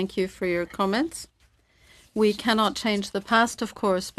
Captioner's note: speaking in French